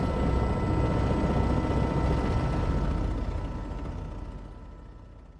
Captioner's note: helicopter whirring